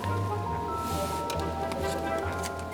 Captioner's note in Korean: 스윽